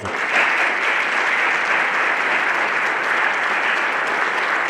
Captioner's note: everyone applauding